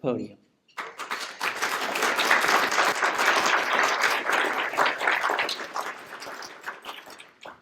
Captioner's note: applause